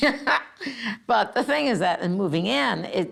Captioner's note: laughing